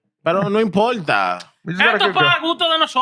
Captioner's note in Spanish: Hablando en idioma extranjero